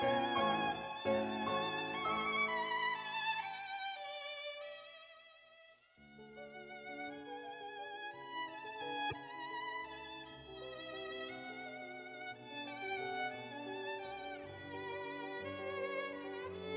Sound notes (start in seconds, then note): none